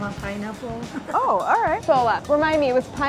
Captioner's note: laughing